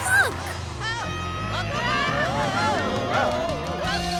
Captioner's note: yelling